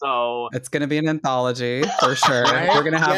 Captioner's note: cackles